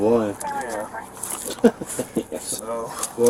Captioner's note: laughs